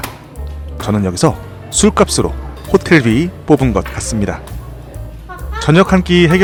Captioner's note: haha